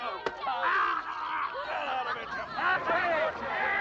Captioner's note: crowd laughing